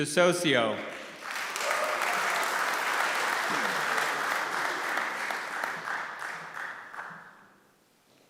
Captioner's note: applause